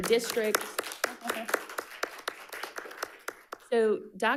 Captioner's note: audience applauding